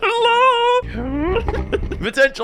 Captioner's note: car revving